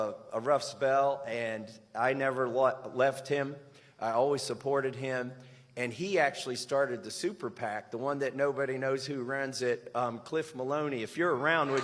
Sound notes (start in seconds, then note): none